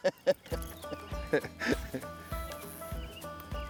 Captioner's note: laughter